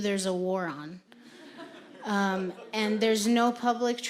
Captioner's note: audience laughing